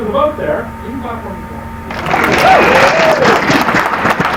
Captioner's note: applause